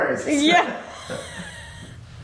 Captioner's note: laughs